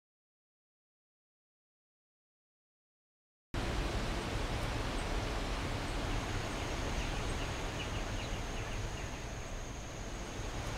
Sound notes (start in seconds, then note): 3.6 water burbling; 6.8 birds chirping